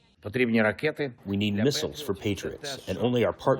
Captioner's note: through translator